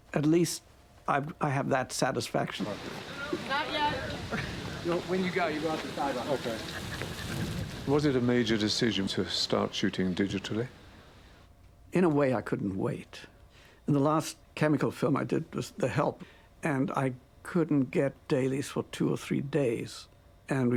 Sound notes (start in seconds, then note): 2.5 background chatter; 8.1 voiceover